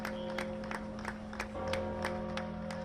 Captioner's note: applause